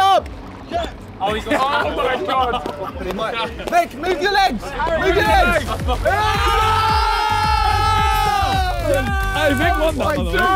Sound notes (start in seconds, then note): 0.3 pool noodles slapping; 2.9 pool noodles slapping; 6.1 upbeat music